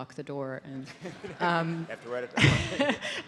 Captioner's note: audience laughs